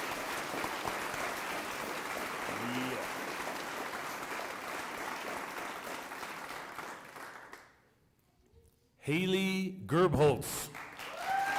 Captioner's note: applause